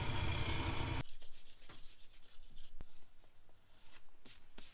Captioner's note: scraping sound